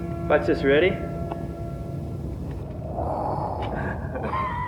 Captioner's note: imitating wind blowing; laughing